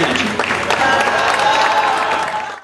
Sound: audience applauds

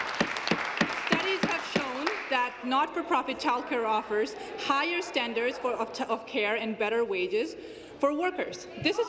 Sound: applause

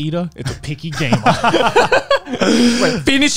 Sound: laughs

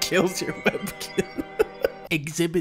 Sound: laughing; laughs

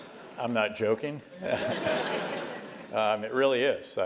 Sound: laugh

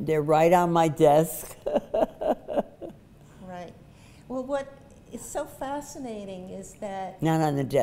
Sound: laughs

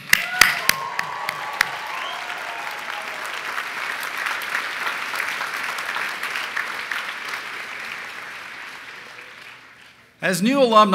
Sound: applause

